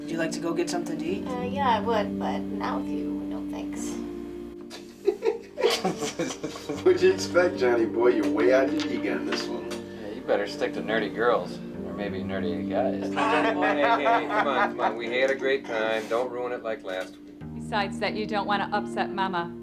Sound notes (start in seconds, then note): 4.6 Russell and Hanee chuckling; 13.1 Hanee laughing